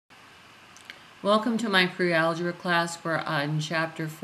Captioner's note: voiceover